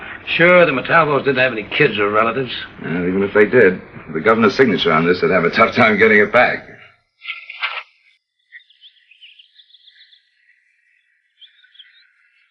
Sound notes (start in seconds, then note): 7.2 paper shuffling; 7.7 birds chirping, hooves clopping